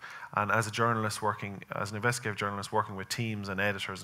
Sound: none

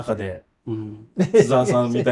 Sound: laughs

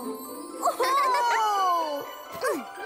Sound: laughing

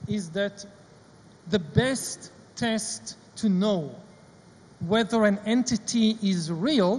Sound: none

